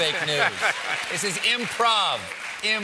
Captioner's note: laughter; applause